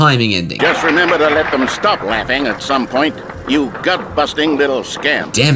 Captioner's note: old-timey voice